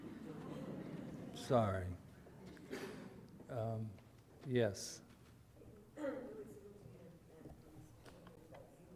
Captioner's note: audience laughter